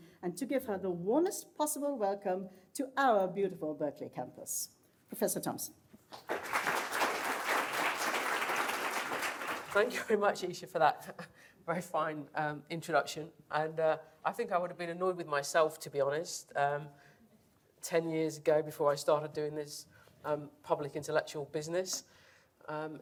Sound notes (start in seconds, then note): 6.1 applause